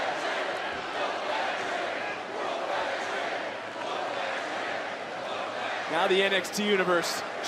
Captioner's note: crowd chants